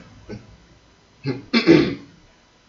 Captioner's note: clears throath